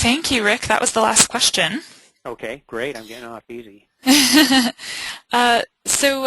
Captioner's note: laughing